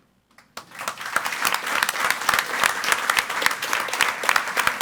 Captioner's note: audience applauds